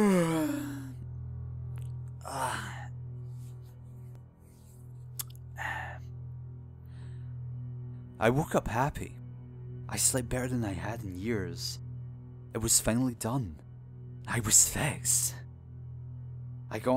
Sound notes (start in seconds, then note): 0.0 yawns